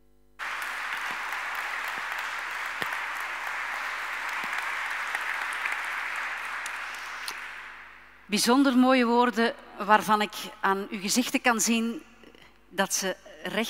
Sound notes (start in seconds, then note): 0.4 audience applauding; 8.2 speaking in Dutch